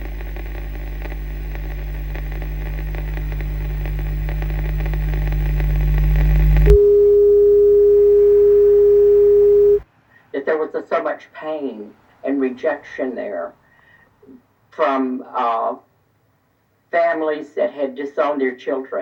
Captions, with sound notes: [TV beeping] That there was so much pain and rejection there from families that had disowned their children.